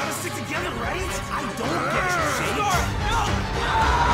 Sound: growling

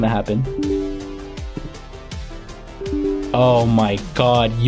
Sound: computer chiming

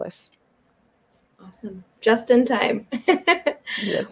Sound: chuckles

